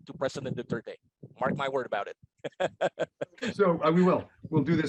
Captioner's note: laughs